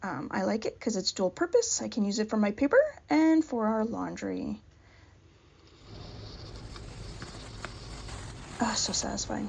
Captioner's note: dry handmade paper crinkling